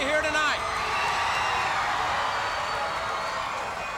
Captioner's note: crowd cheering